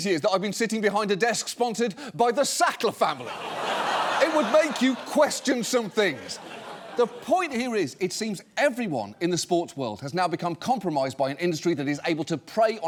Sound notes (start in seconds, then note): 3.1 audience laughs